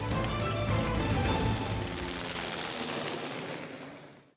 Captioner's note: helicopter blades whirring; audience applauding